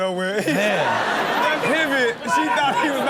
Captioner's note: audience laughs